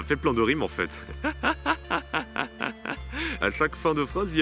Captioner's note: laughs